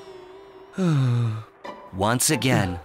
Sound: sigh

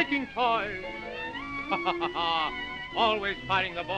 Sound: laughs

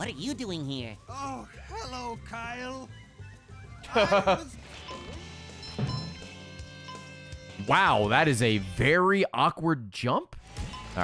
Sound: laughs

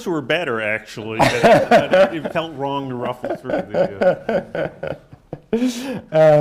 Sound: laughs

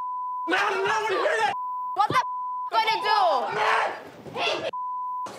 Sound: beep; beep

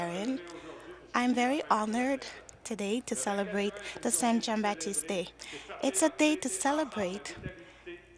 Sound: speaking French

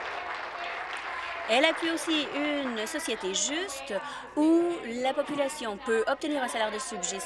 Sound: applause

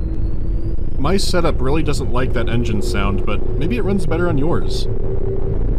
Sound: distorted humming of engines

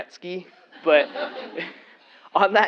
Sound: laugh

